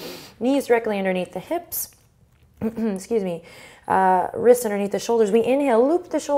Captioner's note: clears throat